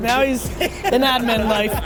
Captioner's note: laughs